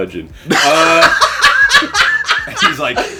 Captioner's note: laughing